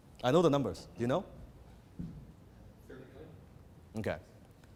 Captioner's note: audience mutters